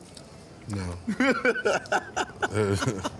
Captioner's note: laughing